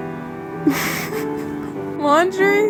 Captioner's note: laughing